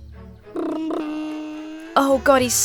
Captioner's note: imitating plane engine